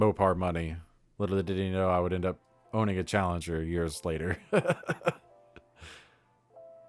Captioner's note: chuckles